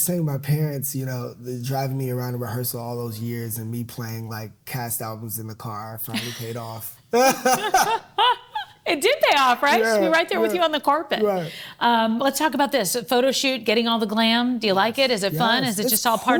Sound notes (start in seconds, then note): 7.1 both laughing